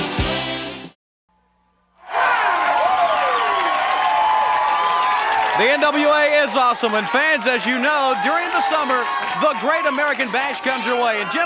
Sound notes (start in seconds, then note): 2.0 audience cheering and clapping